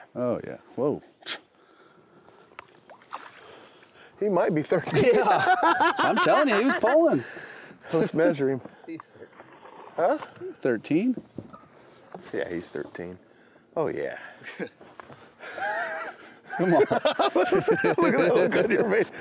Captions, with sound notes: Oh, yeah. Whoa! He might be 13. [laughs] Yeah. I'm telling you, he was pulling. Let's measure him. He's 13. Huh? He's 13. Yeah, he's 13. Oh, yeah. [laughter]